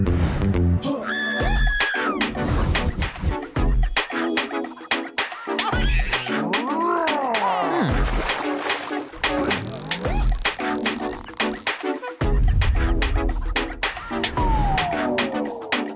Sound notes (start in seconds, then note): 0.8 screaming